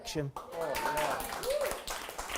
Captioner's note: applause and cheers